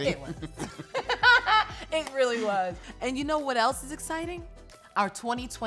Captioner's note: laughs